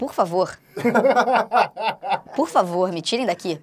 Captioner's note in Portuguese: risadas